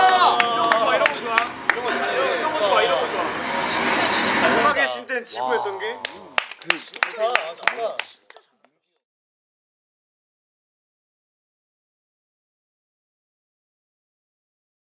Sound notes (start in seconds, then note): 2.8 applause; 6.0 clap clap